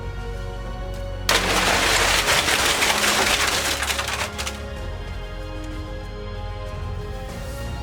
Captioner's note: loud crumbling crash and sustained rustling